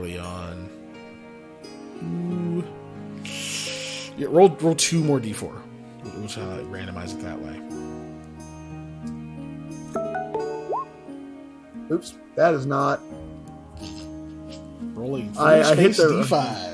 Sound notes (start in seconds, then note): 3.2 sucking in breath sound